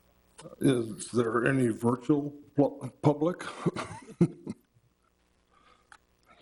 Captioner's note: chuckles